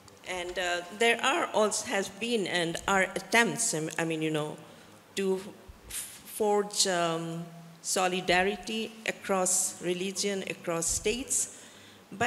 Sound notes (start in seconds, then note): none